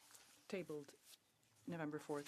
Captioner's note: speaking French